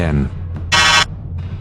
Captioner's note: buzz